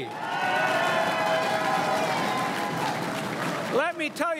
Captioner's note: crowd cheering and applauding